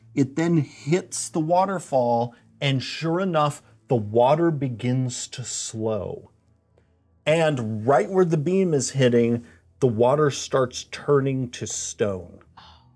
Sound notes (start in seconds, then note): none